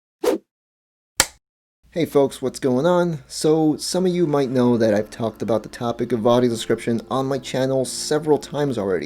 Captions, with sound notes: (Whoosh, film clapper sound) -Hey folks, what's going on? SO some of you might know that I've talked about the topic of audio description on my channel several times already.